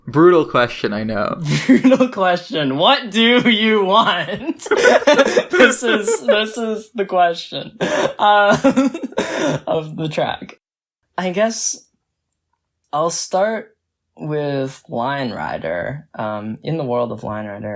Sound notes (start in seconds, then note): 4.2 both laugh; 9.8 laughs